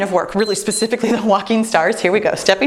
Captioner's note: timer beeps